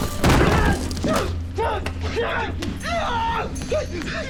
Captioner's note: yells; both grunting